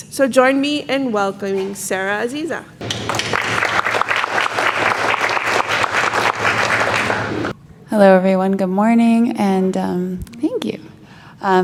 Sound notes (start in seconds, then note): 2.8 audience applauds